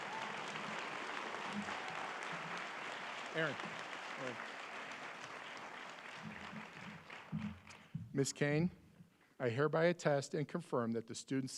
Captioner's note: applause